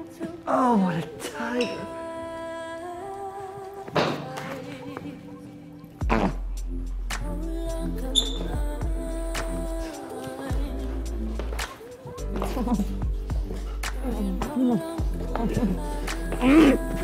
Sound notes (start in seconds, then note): 0.4 moans; 8.2 floorboard squeaks; 12.3 giggles